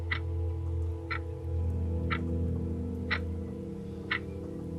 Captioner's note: clock ticking